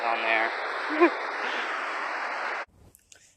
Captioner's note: giggles